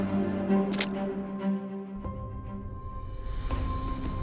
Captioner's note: splashing